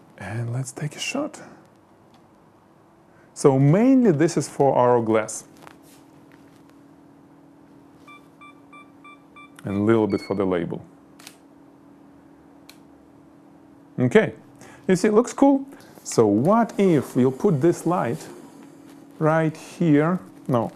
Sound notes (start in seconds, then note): 9.3 camera beeps; 11.2 shutter clicks